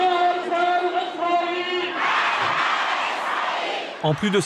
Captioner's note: Arabic spoken language